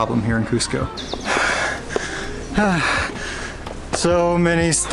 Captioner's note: heavy breathing